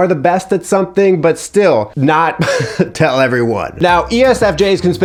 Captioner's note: laughs